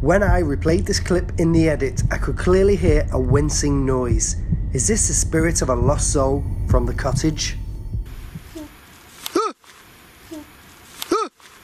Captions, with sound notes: When I replayed this clip in the edit I could clearly hear a wincing noise. Is this the spirit of a lost soul from the cottage? (soft ghostly cry) (screams)